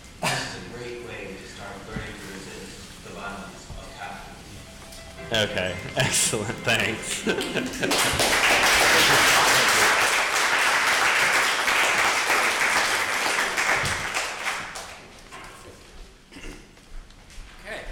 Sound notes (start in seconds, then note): 7.8 audience clapping